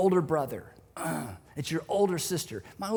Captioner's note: groans